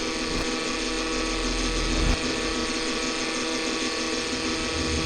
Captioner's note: intense static